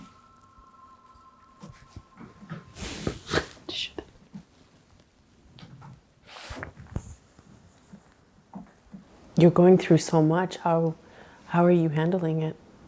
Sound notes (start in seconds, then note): 3.4 whispering